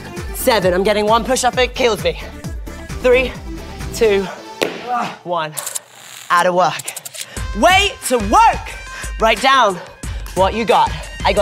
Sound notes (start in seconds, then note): 4.6 slapping; 4.9 moaning